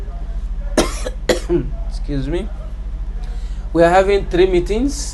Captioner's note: coughs